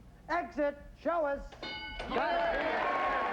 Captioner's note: overlapping chatter